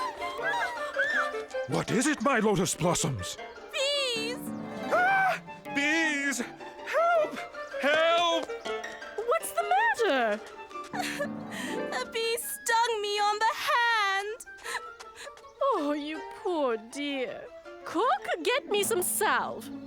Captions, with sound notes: - What is it my lotus blossoms? - Bees! - Aaah! Bees! Help! Help! - What's the matter? - [Ba-Do sobs]: A bee stung me on the hand! - Oh you poor dear. Cook, get me some salve.